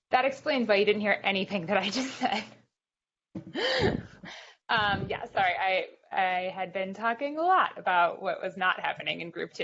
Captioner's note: laughing